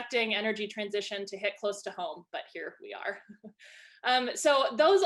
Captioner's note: giggles